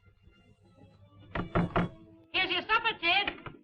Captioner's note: knocking on door